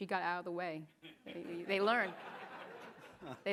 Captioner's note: audience laughing